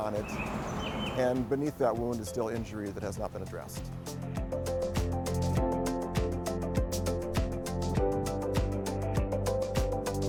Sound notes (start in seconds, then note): 0.0 sound of a bird singing